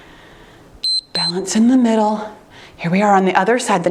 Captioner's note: timer beeps